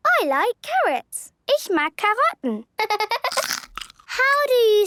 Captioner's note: laughter